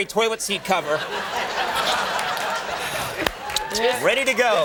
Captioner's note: audience laughing